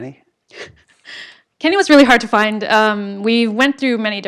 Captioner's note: laugh